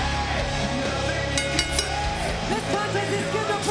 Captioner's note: bell dings